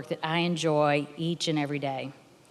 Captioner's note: none